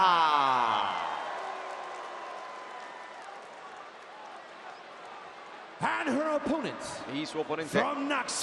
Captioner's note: applause